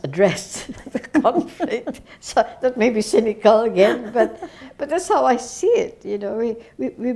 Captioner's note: both laugh